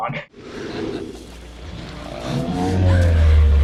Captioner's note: dinosaur exhales; dinosaur groans